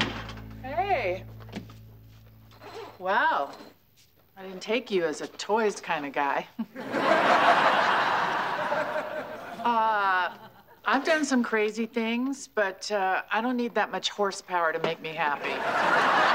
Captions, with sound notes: I didn't take you as a toys kind of guy. [ Chuckles ] Uh, I've done some crazy things, but, uh, I don't need that much horsepower to make me happy.